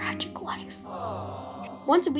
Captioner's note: people sigh Awww